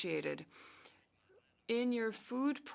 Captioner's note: speaking French